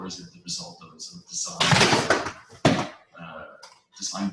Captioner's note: someone's laptop falls